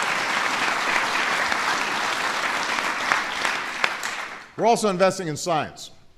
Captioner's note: applause